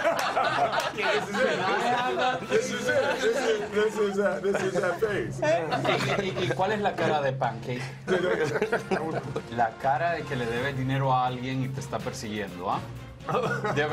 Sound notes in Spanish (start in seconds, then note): 6.4 risas